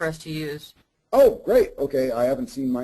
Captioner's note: voiceover